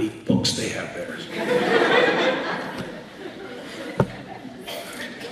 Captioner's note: laughter